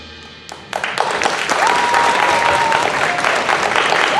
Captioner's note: applause